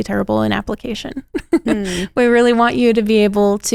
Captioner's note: laughs